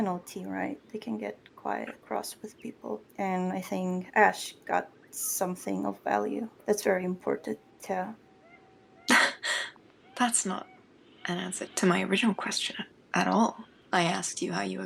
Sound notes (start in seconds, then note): 8.7 scoff